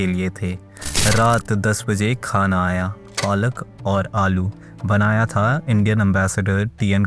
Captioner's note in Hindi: नाक से की जाने वाली आवाज़